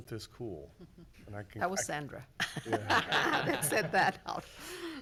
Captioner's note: everyone laughs